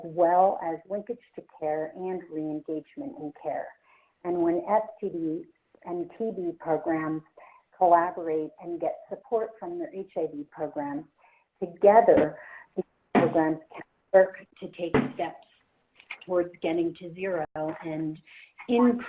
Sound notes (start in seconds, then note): 12.4 clattering